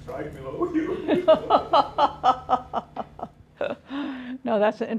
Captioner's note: laughter